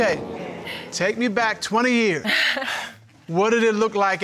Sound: chuckles

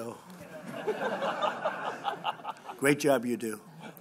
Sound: laughter

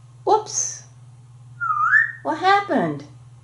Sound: whistling

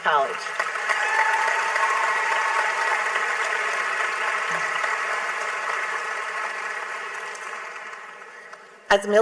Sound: clapping

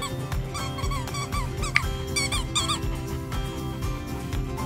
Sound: squeaks toy

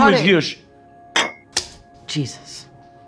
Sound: paper smacking; plate plopping

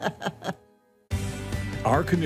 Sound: laughs

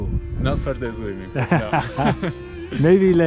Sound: laughs

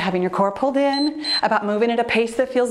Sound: timer beeps

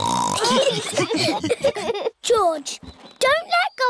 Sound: snorts; laughter

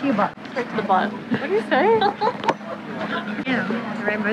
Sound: laughs

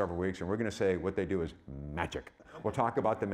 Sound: audience laughing

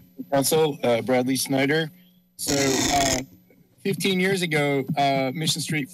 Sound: none

